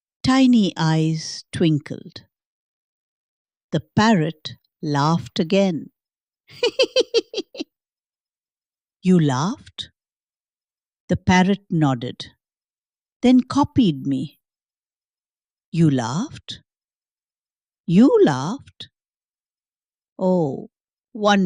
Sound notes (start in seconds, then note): 6.5 laughs